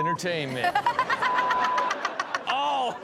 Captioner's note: Chanel and audience laughing